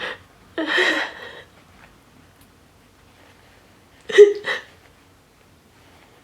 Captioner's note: Vanessa crying